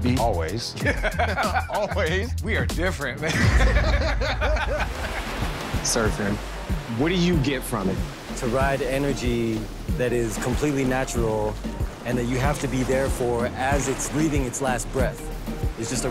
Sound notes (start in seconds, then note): 0.8 laughing; 5.2 waves rushing